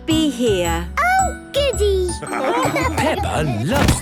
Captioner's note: laughing